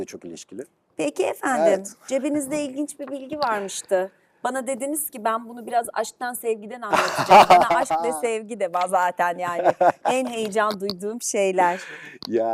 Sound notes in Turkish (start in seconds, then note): 6.9 kahkaha